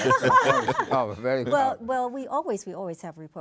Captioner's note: everyone laughs